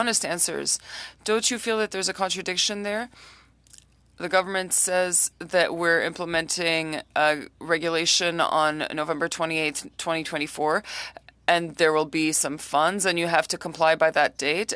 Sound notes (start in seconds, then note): 6.8 speaking French